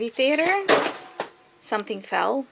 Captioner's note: bang